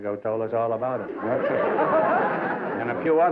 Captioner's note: laughter